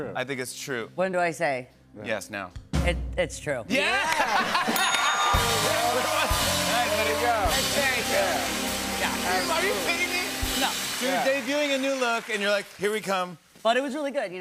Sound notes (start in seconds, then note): 4.6 bell dings; 5.2 cheers and applause